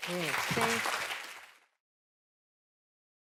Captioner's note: applause